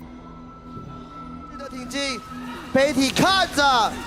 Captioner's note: sighs